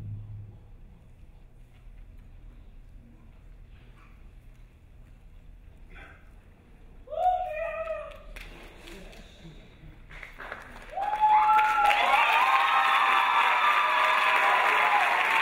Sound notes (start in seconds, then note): 6.9 crowd cheering; 9.2 crowd hushing; 10.0 crowd applauding; 10.7 crowd cheering